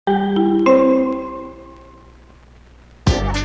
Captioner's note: three melodic chimes